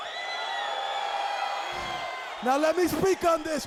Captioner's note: audience cheers